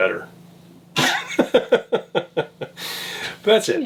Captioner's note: laughs